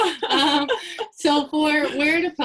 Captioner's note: both laugh